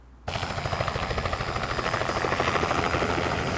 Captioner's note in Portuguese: som de helicóptero